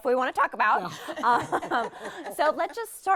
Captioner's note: all laughing